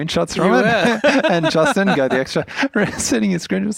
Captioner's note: laughs